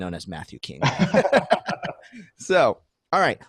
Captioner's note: laughing